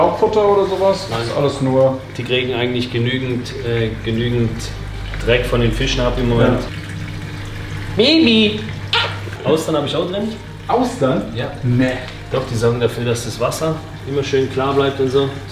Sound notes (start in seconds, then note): 8.9 smooch